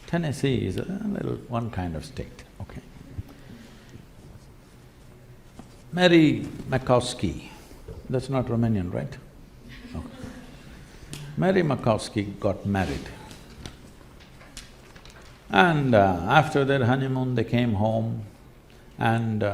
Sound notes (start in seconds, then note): 9.6 laughter